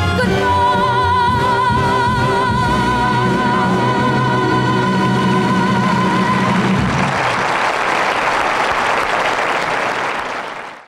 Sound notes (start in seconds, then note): 6.3 audience applauds